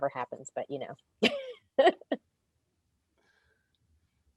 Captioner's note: laughs